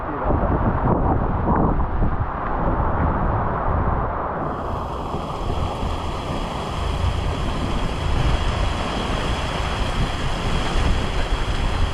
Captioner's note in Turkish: Yağmur sesi